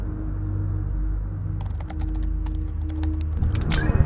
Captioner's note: keyboard clacking